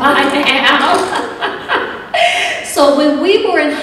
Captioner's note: laughter